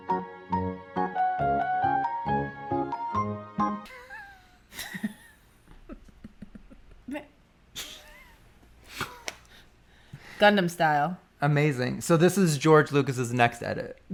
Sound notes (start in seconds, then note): 3.8 laughing